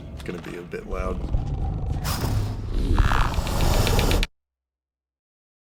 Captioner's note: growls and clicks; silence